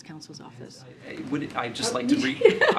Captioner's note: laughs